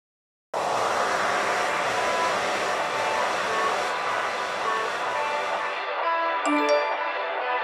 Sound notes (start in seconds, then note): 0.5 hair dryer; 6.5 message notification